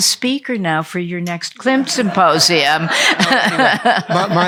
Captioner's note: laughter